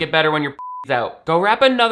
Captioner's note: beep